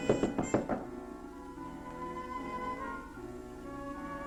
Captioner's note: knocking on door